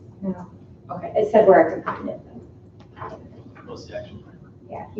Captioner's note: muffled conversation